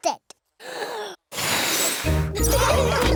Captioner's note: blows; laughter